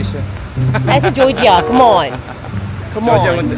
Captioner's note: laugh